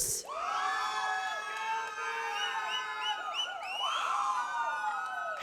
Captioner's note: audience cheers